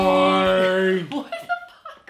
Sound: laughs

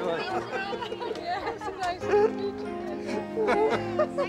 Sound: laughter and talking

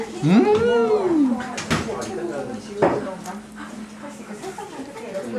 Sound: sob

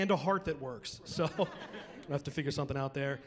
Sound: chuckling

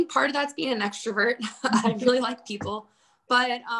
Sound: laughing

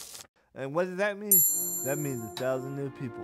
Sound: bell rings

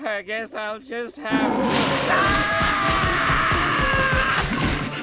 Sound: screaming; growling

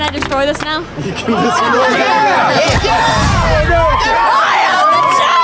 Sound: laughing; cheering

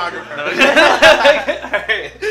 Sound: everyone laughs

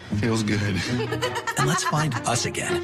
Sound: laughs

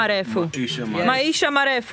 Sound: Swahili

